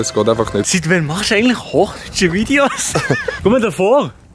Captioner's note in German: lacht